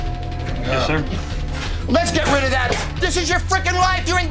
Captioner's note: yelling